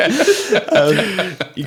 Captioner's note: laughing